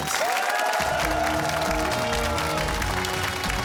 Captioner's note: cheers and applause